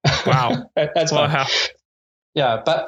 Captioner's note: laughing